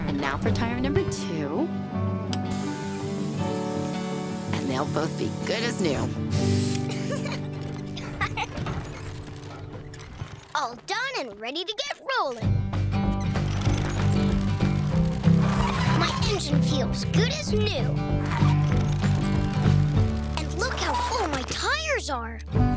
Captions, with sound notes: And now for tire number two, and they'll both be good as new. [LAUGHS] All done and ready to get rolling. My engine feels good as new. And look how full my tires are.